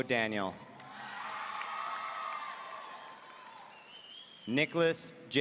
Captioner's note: audience cheering